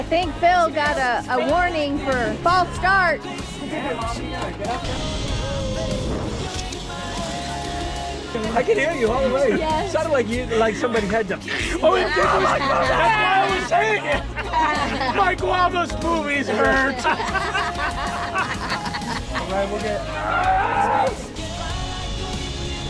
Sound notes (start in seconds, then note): 12.4 noises With Mouth; 16.7 laughter; 20.1 screaming; 20.8 grunting